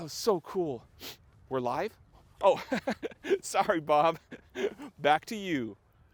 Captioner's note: laughing